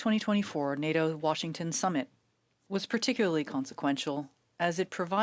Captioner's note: speaking French